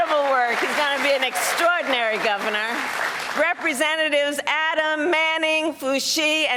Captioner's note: cheers and applause